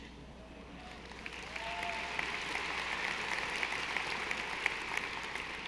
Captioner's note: audience applauding